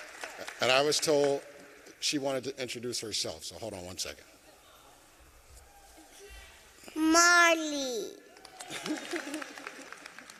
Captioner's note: applause